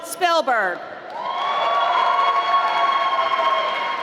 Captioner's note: applause